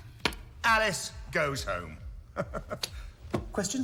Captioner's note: laughs